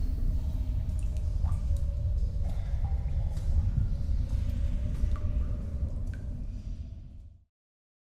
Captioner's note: cave noises